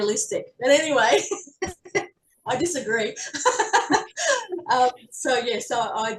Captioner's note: all laughing